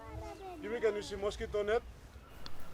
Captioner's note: Speaks in Tok Pisin